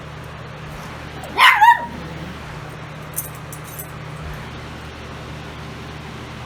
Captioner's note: Ella barks